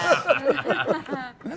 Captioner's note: laughs